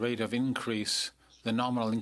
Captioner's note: speaking French